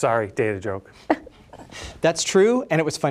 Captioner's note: laughs